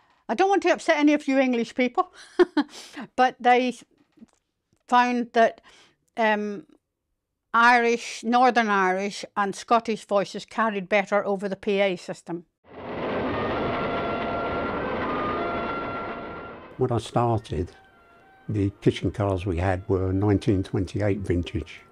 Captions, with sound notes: - I don't want to upset any of you English people, (laughs) but they found that Irish, Northern Irish and Scottish voices carried better over the PA system. (train roaring) (dramatic music) - When I started, the kitchen cars we had were 1928 vintage,